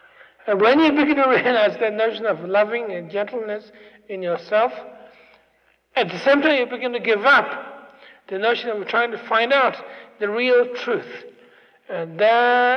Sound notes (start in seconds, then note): none